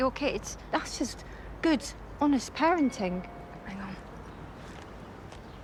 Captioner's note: phone chimes